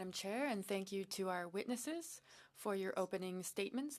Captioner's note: speaking in French